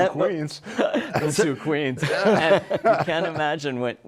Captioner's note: laughs